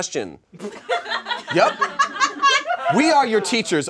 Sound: audience laughs

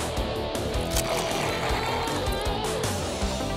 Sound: slurping

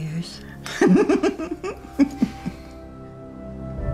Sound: chuckling

